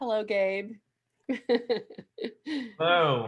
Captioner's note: laughing